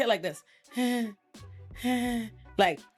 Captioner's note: sighs